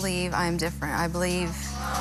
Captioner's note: audience groans